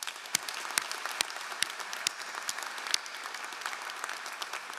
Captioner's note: all applauding